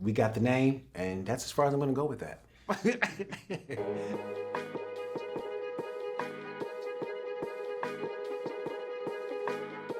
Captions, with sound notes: We got the name and that's as far as I'm gonna go with that. (laughs) (lively upbeat music)